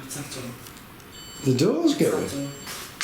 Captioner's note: device beeps